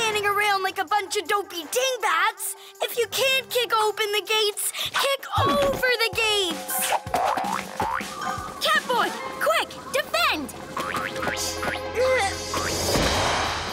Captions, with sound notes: Stop standing around like a bunch of dopey dingbats! If you can't kick open the gates, kick over the gates! [Boink boink boink] Catboy! Quick! Defend! Eugh!